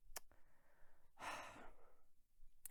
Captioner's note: sighs